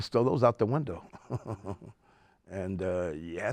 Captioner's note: laughs